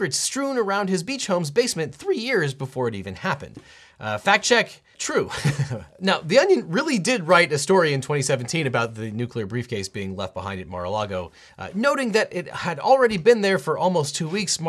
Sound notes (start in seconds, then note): 5.2 chuckles